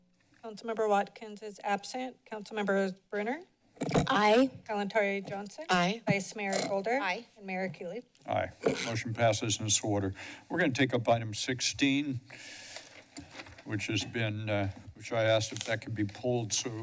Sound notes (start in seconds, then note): 12.3 inhales; 12.8 papers rustling